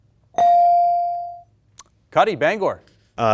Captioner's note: bell dings